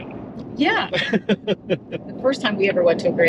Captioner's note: laughing